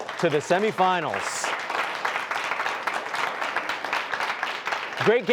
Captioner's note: applause